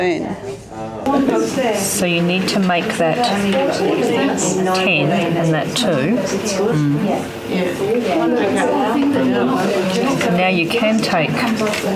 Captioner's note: audience chatter